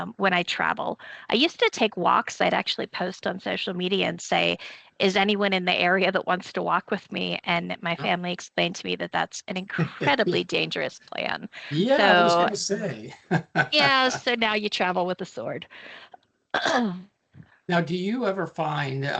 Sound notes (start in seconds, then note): 11.5 laughing